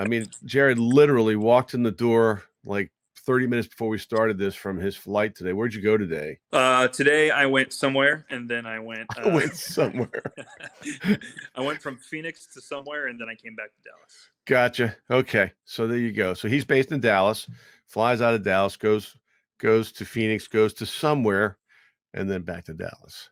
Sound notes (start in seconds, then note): 9.0 laughing